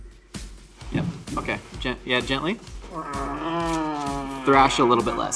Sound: Glorp-Glorp exclaims

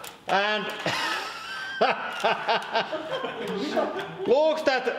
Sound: laughter

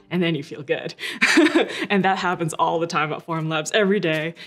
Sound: laughing

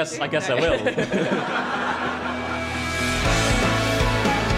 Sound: everybody laughing

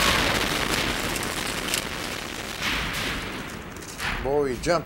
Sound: explosions bang

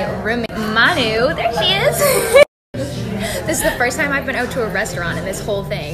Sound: laugh

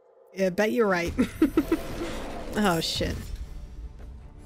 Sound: laughs

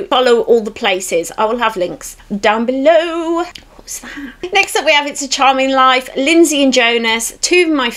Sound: whispers

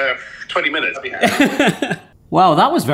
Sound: laughs

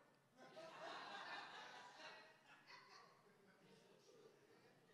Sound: attendees laughing

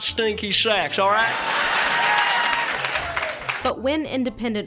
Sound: applause, cheering

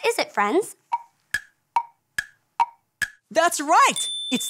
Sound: clock ticking

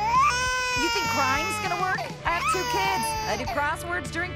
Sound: crying

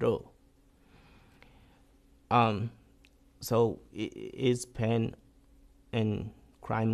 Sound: pauses for 3 seconds

